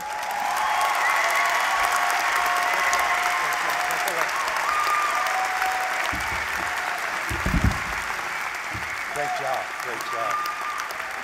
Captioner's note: applause